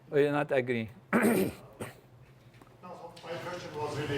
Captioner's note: cough